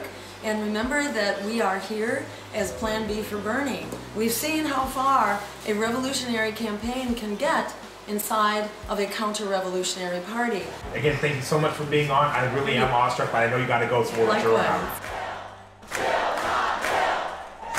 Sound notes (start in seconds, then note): 15.8 crowd